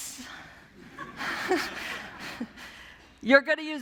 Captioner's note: laughter